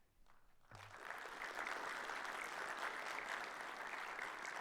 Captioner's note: audience applauds